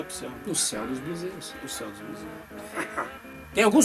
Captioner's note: laughter